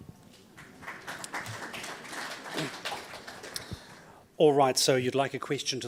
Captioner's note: audience applauds